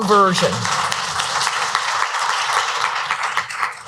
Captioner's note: audience applauds